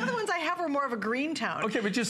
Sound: laughter

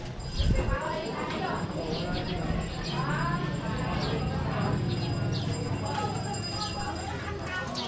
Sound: bell ringing

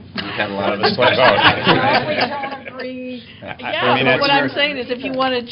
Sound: laughter

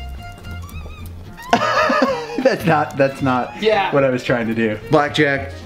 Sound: laughs

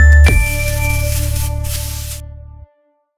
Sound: mellow music; scratching

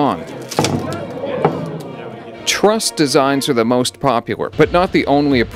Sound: sound of bridge collapsing

